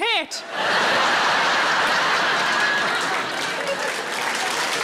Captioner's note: audience laughing; audience applauding